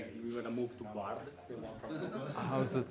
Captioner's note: laughter